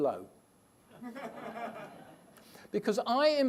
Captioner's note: laughter